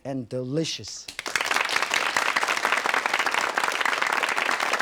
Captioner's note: audience clapping